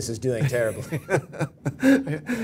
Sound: laugh

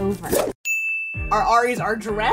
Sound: bell rings

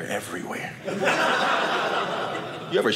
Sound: audience laughing

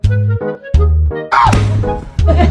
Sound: hit

